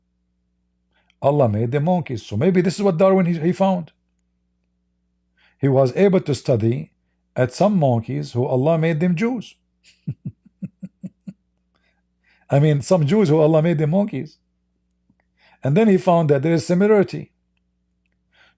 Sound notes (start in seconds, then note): 9.8 Ketawa